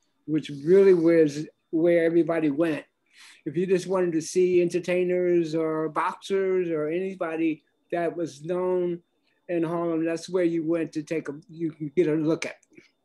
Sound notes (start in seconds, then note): none